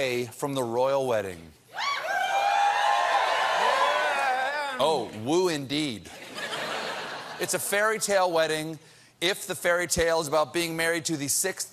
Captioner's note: cheering